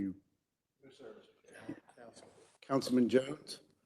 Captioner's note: faintly speaking